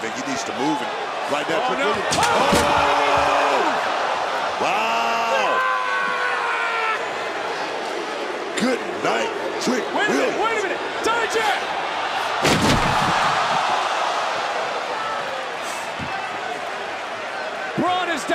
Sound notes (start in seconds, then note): 5.9 yelling